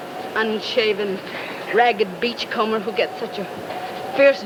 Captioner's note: wind howling